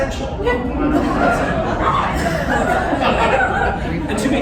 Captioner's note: laughter, confusion